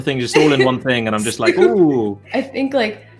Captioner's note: giggles